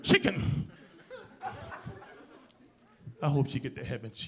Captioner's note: audience laughing